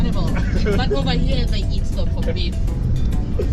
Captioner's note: laughing